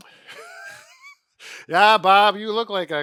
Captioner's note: laughs